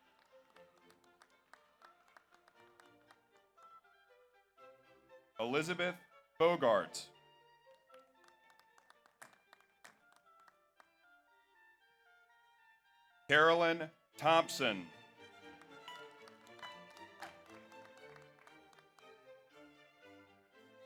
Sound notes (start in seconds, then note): 0.0 audience applauds; 7.7 audience applauds; 14.2 audience cheers; 14.2 audience applauds